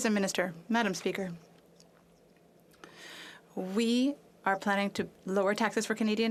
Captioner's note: speaking French